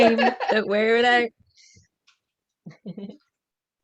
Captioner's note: laughter